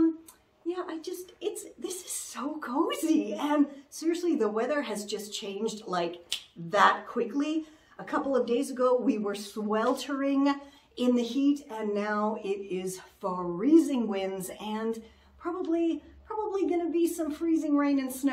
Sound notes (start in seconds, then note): 6.2 snap!